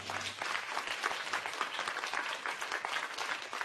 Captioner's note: applause